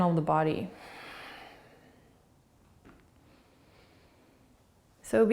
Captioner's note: breathing